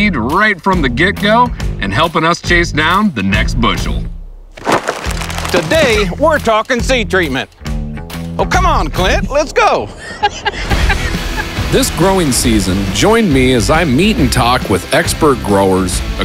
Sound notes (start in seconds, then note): 9.8 laughing